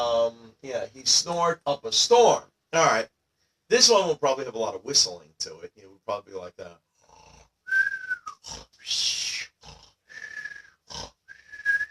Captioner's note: snoring and whistling sounds